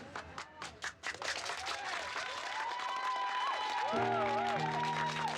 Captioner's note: applause & cheering